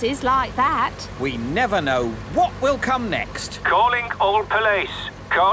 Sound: radio

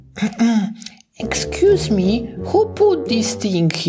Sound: clearing throat

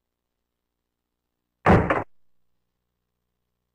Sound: clunk

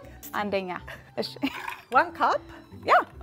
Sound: speaking Amharic

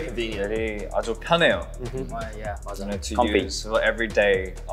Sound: speaking Korean

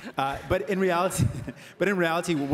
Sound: laughter

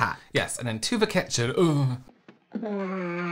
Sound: excited Burp

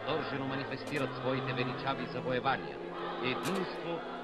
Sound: radio recording playing

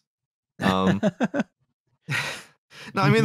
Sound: laughs

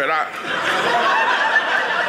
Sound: audience laughing

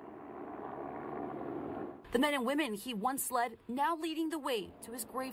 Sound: helicopters

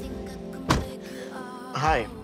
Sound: car door thumps

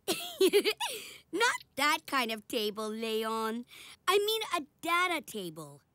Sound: laughs

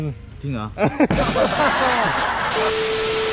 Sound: laugh

